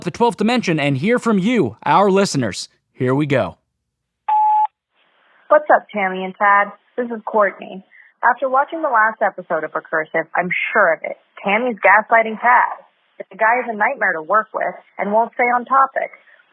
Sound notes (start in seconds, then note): 4.3 sfx: beep, new message; 6.0 phone message